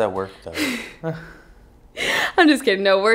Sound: laughing

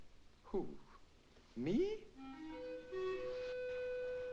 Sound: sarcastically; somber music

